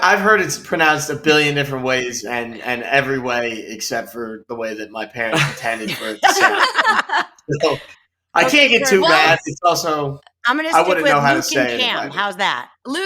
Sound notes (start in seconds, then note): 7.2 laughing